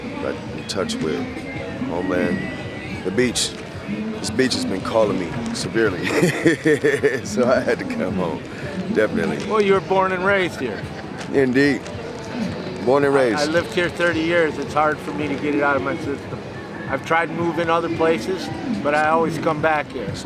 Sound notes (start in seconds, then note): 5.7 laughing